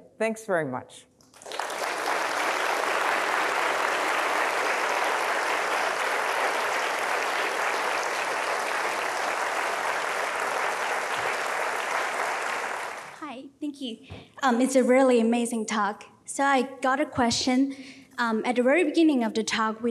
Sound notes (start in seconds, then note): 1.8 audience applauding